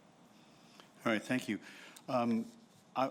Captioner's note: voiceover